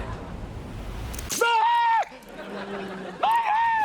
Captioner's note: schling!; screams